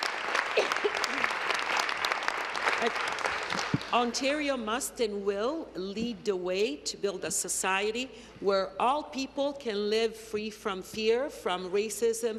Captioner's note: applause